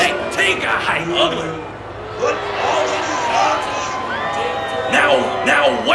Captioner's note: crowd shouts